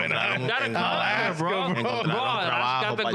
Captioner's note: speaking In Foreign Language